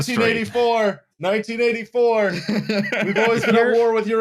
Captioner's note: laughs